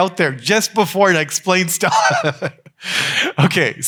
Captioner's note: laughs